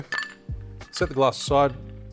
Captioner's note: ice cube clink